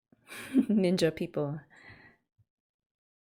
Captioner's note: laughs